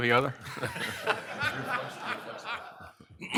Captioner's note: laughs